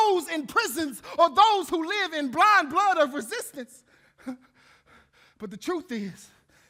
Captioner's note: panting